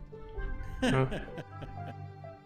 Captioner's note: giggle